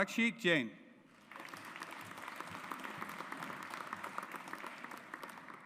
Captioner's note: audience applauds